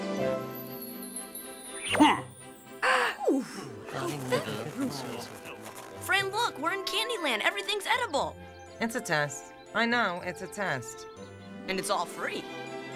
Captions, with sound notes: (EXCLAIMS) (TURTLES CHATTERING) Fran, look, we're in Candy Land. Everything's edible. It's a test. I know it's a test. And it's all free.